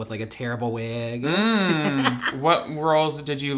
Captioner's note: laughs